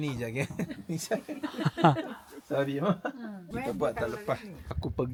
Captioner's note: laugh